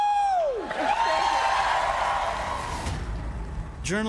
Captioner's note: applause and cheering